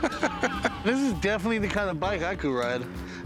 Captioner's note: laughter